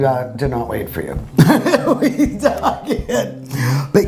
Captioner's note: laughs